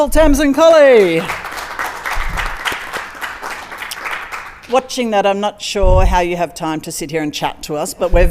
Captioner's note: applause